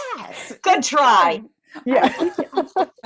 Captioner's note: laughter